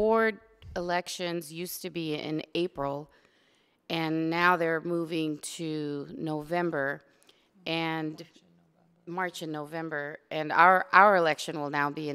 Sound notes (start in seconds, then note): none